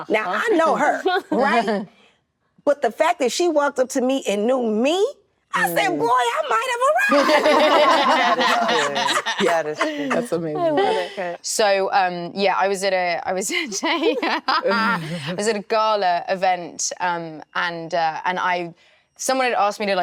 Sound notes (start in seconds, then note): 7.0 all laughing; 12.5 Emilia laughing